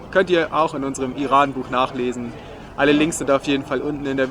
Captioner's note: german